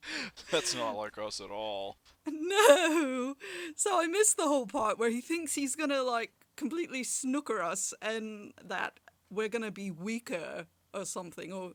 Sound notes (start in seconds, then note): 2.3 giggles